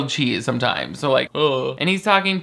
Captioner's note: groans